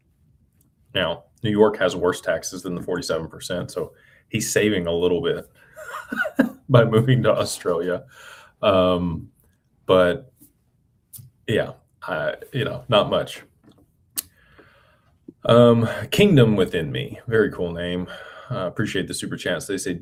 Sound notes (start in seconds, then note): 5.8 laughter